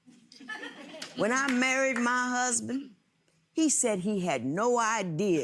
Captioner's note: audience chuckles